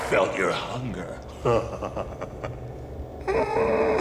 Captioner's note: evil laughter